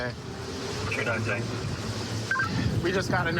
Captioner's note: radio communication